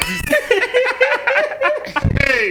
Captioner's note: laughing